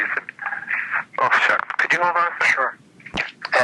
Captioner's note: phone ringing